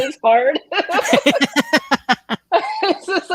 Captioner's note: laughs